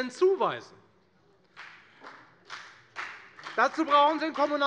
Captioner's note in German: Beifall bei der FDP